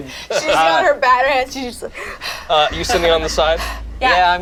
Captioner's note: huffs